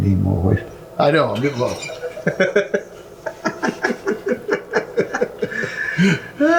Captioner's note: laughing